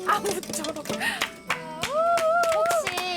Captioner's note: haha